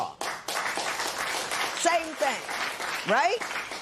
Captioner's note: applause